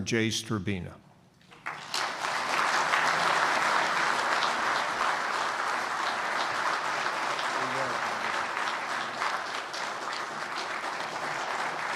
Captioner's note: applause